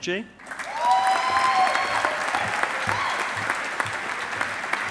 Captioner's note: audience applauding